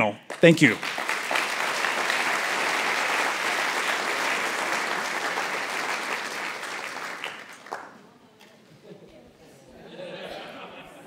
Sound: applause

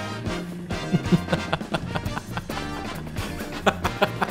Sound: Dunkey's evil laugh

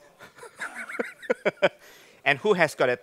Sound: laughing

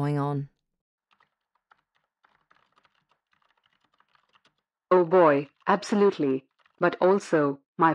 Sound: background SFX: Keyboard typing

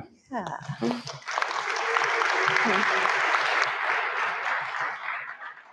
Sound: audience clapping

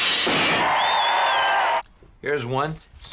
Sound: crowd cheering

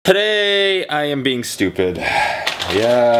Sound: breathes in

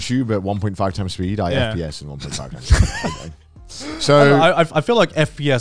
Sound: laughing

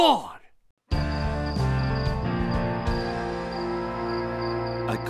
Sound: crickets chirping

